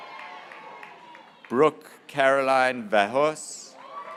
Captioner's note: graduates cheering